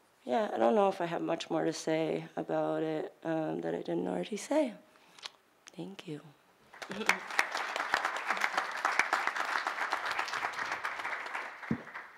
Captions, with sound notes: yeah I don't know if I have much more to say about it that I didn't already say. Thank you. [Applause]